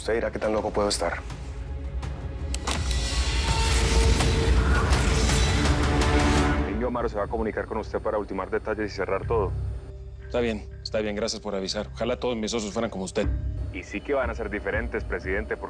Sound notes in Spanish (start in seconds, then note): 2.5 Sonido al abrir el maletín